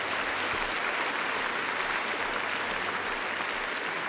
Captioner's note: applause